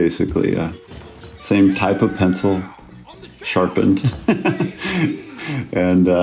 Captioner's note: laughs